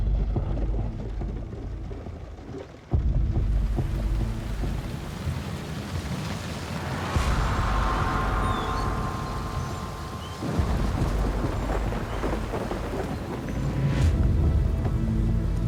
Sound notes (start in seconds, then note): 3.5 rain pattering; 7.4 sign squeaking